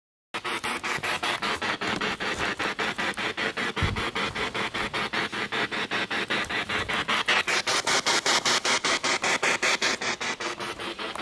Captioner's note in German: Noise of the spiritbox in the background